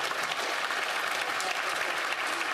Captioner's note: some Applause